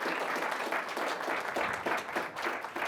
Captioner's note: applause